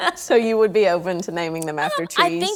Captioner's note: laughing